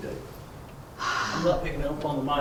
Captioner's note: gasps